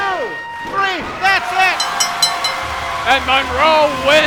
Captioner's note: bell dinging